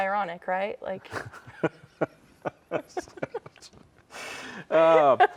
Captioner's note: both laughing